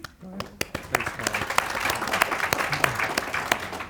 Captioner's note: audience applauds